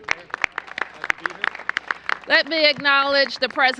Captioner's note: applause